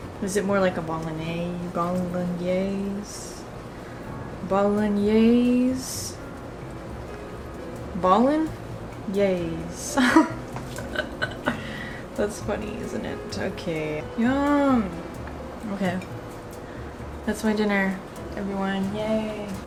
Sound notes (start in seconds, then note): 10.7 laughs